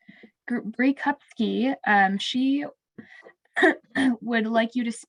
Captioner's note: clears throat